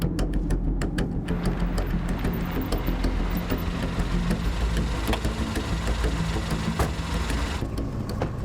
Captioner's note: car sounds